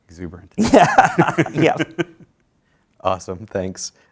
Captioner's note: chuckling